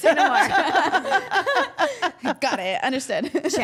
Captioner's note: all laughing